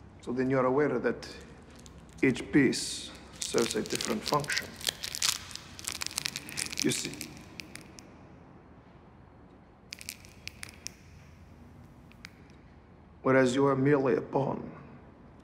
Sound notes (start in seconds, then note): 4.6 plastic crinkling; 8.4 crinkling stops